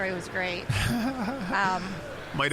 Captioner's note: laughing